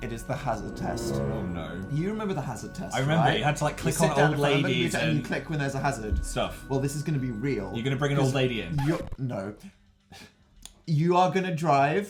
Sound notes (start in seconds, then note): 1.3 ominous; 9.6 jumpscare